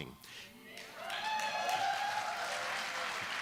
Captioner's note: applause